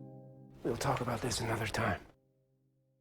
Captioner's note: voiceover